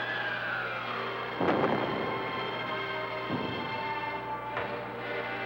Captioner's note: cannon fire